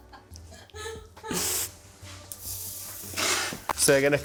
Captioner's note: chuckling